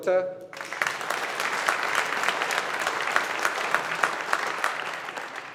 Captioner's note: audience applauding